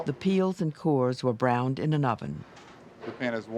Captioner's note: voiceover